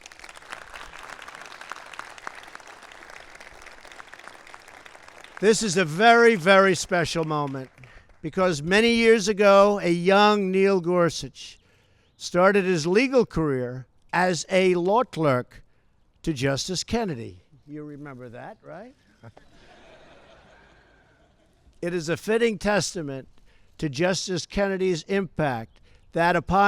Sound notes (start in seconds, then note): 0.0 applause; 19.3 laughter